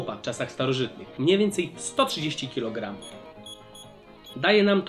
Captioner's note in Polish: dźwięki kalkulatora